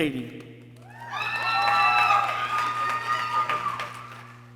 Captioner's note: people cheering